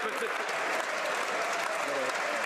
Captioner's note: some Applause